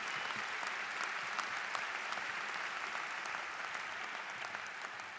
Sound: applause

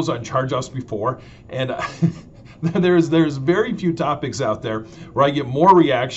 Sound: laughing

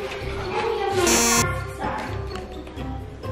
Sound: beeps

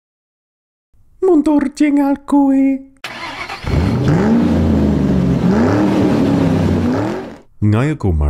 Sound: engine starts

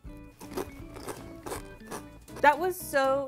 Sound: chip crunches

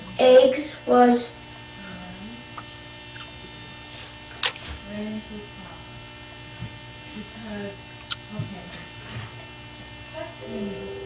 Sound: lots of background noise, talking, train horn, etc

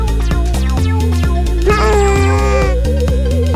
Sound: cute dinosaur grunts

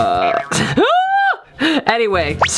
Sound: gasps

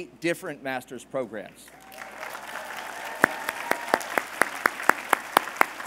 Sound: applause

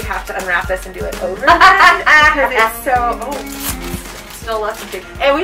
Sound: laughter

